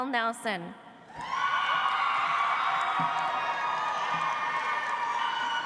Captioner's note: audience applauds